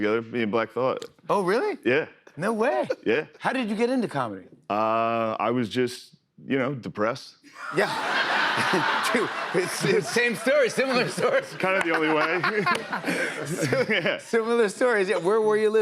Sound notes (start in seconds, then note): 8.1 laughter